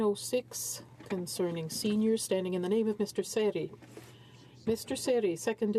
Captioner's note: speaking in french